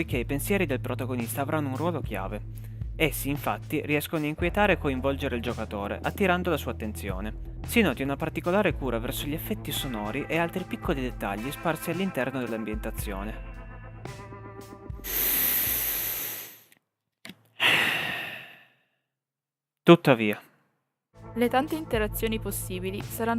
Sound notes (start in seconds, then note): 15.2 sigh